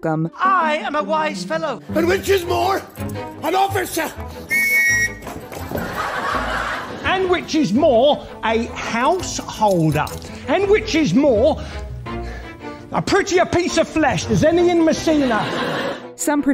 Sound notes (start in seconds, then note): 4.4 blows whistle and audience laughs